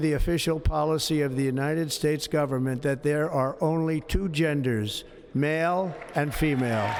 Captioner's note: applause